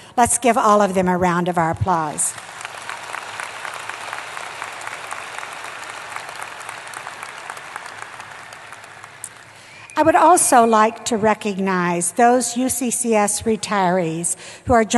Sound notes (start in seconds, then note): 2.2 applause